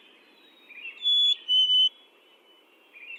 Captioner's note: birds chirping